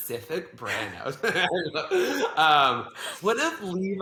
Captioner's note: laughs